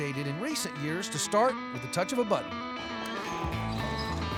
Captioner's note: clicking button